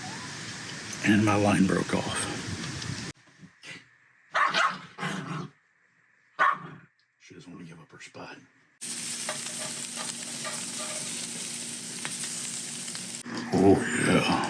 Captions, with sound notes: And my line broke off. (dog barks) She doesn't want to give up her spot. Oh, yeah.